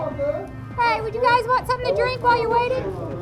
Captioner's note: voiceover